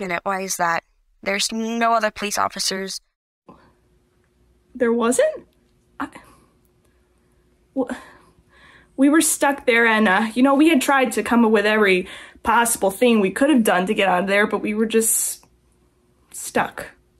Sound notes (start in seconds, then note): 5.9 stutters